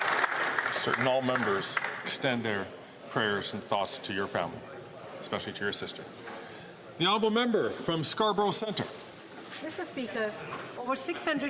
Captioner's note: some Applause